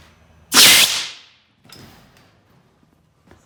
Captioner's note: blasting